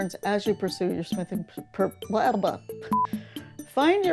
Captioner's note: test tone beep